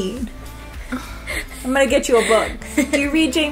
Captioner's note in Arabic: تنهد; ضحك